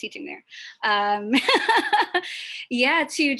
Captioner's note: laughs